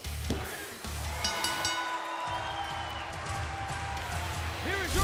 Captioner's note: bell ringing